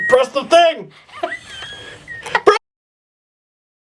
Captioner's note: laughing; still laughing